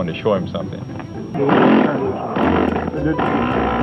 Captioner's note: model airplane buzzing